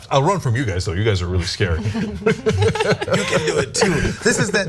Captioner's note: laugh